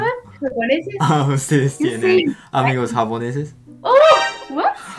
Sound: Spanish

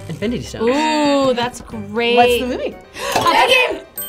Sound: klaxon sounding; bell dings

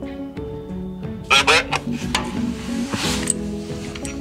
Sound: radio chatter

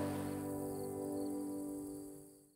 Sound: crickets chirping

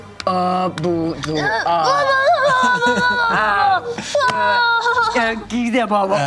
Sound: grunts excitedly

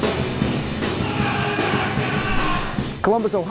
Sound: yelling

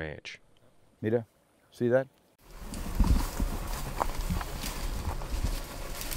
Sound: speaking in foreign language

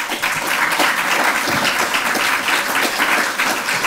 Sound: applause

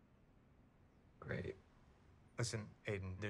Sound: none

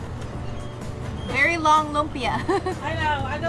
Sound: chuckling

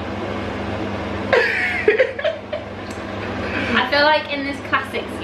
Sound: laughter

